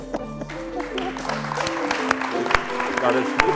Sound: applause

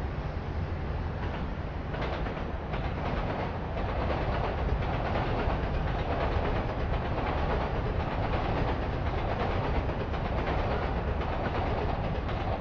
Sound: train Noises

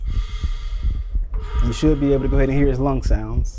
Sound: breathing and heartbeat sounds

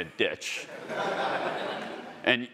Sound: attendees laughing

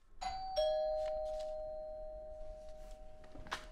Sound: doorbell ringing

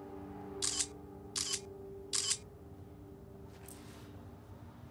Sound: camera clicks

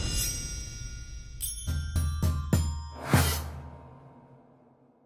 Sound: bright chimes

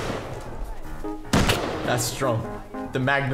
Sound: gun shot

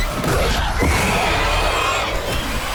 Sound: raptor roars

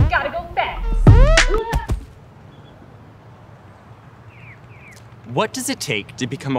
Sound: falling noises

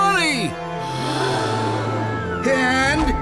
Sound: crowd gasps

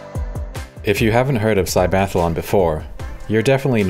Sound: voice-over

